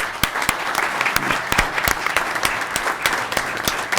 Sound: audience clapping

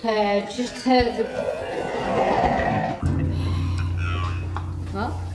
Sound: guttural breath and growl

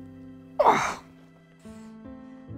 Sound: groans in pain

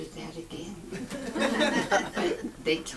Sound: audience laughs

